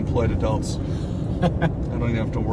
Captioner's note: laughs